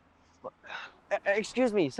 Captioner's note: Ayman stutters